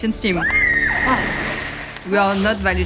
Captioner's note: screams